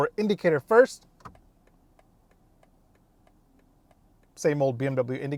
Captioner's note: signal clicking